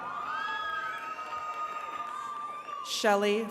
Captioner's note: attendees cheering